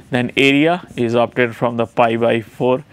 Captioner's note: distortion